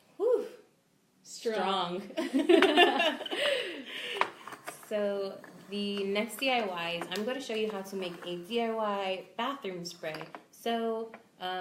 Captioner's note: both laugh